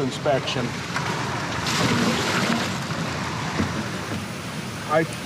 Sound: water splashing

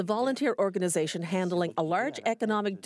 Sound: speaking French

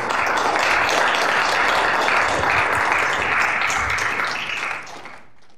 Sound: applause

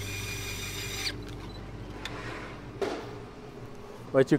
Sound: drill whirring

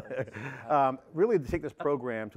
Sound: laughs

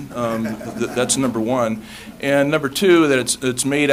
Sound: laughter

